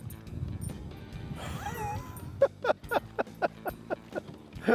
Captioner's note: laughing